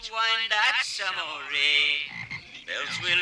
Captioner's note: frogs croaking